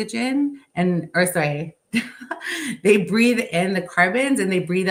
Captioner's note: chuckles